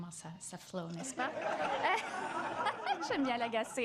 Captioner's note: laughter